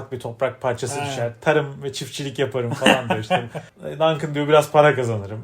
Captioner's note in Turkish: kahkaha